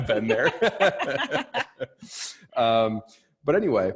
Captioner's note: laughing